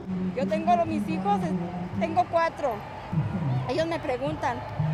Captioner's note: speaking in foreign language